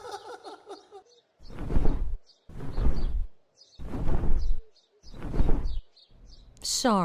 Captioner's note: heartly cackle; wings flap as birds chirp